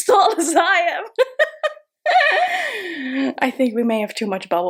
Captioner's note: chuckling